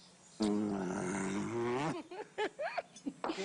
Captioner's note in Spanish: Risas